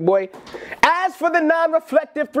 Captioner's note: book thuds